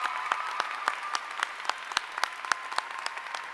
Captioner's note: applause